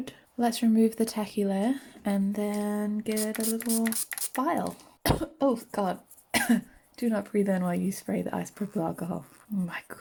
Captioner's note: cough